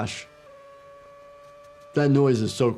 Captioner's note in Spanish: motor acelerando